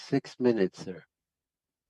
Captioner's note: speaking French